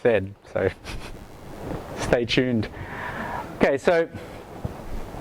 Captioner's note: laughs